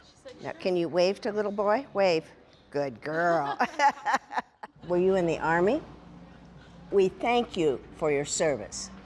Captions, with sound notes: Can you wave to the little boy? Wave. Good girl. (laughing) Were you in the Army? We thank you for your service,